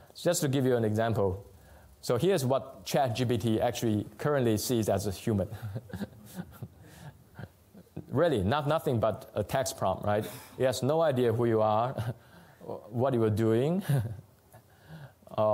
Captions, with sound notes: So just to give you an example. So here's what ChatGPT actually currently sees as a human. [LAUGHTER] Really, nothing but a text prompt, right? It has no idea who you are, what you're doing,